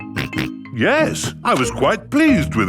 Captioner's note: snorts